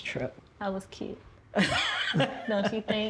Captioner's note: laughs